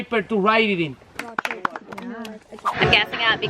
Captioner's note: clapping